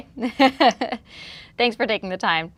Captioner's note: chuckles